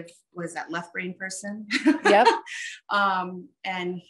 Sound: laughs

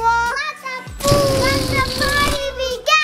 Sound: balloon air spluttering

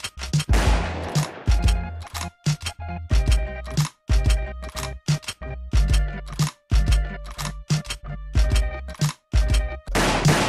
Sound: gunshot

